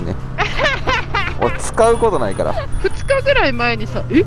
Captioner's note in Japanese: 笑い